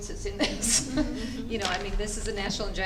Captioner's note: laughing